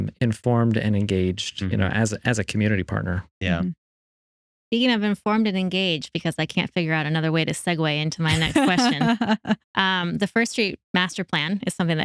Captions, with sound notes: informed and engaged as a community partner. Speaking of informed and engaged because I can't figure out another way to segue into my next question. (Laughing) The first street master plan is something